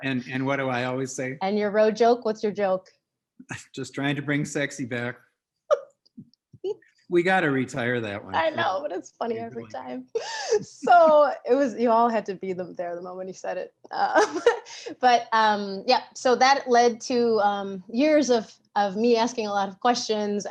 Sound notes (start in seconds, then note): 5.7 laughs; 14.5 laughs